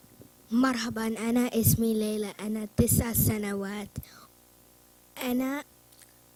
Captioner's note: foreign language